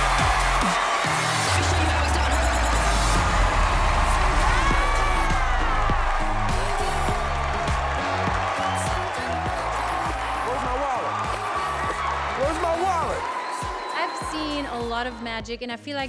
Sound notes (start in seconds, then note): 3.0 cheering; 7.5 cheering and screaming